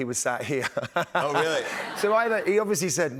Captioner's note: laughter